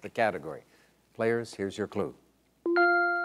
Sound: gentle beeping

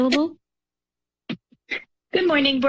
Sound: mic rustling

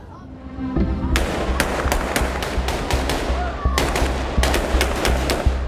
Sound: gunfire

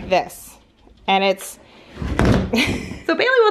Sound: laughs

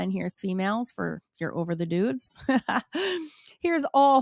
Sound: chuckles

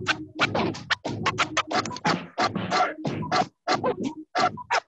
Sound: record scratching

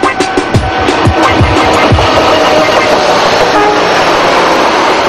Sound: train engine

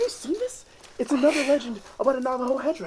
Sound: chuckles

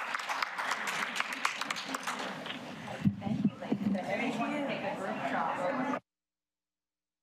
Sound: applause

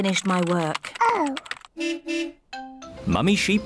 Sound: car horn beeps

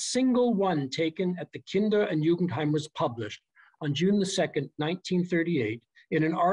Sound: german

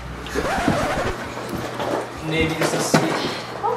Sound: record scratching

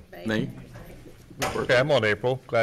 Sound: multiple Voices

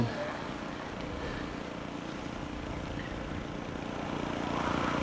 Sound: motor humming

